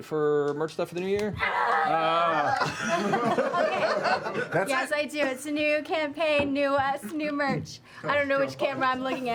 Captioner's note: yells